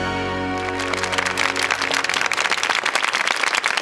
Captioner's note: applause